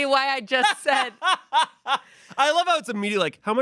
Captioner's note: Shayne laughs